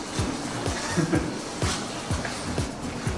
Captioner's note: laughs